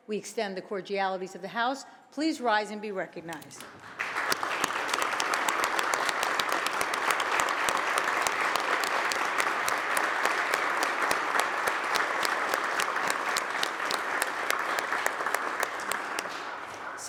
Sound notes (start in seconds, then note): 3.4 applause